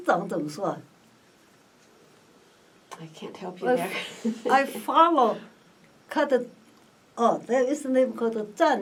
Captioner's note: laughs